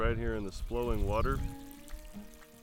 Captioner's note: flowing water